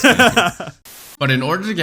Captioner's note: static